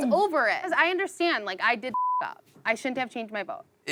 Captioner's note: beep